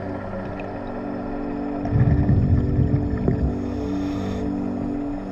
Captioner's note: underwater sounds continue